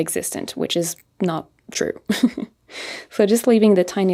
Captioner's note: chuckles